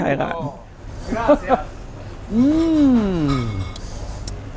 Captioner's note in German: lacht